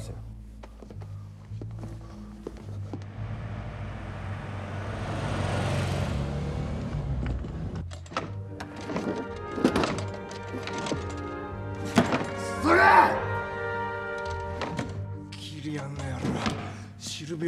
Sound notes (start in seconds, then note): 2.9 A sound of a car driving; 8.0 A sound of a desk drawer being opened hard